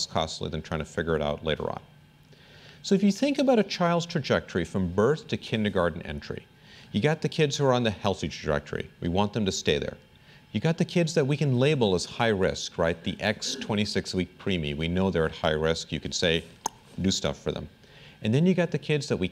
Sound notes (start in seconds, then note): 16.6 clicks tongue